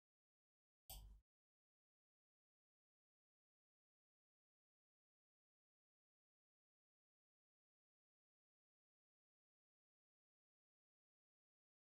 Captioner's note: blank Audio